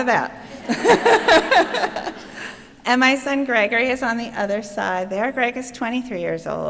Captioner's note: chuckling